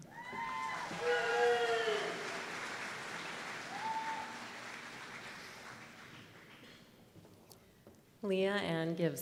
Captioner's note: applause